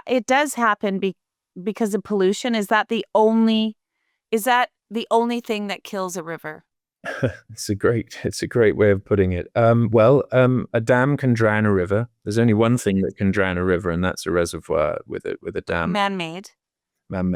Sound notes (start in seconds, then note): 7.0 laughing